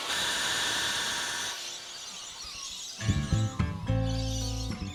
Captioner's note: grinding; birds twittering